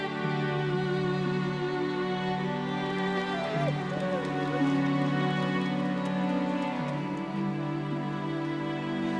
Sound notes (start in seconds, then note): 3.2 dog whining; 6.0 soft mournful music